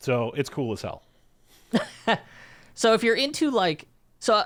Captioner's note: laughs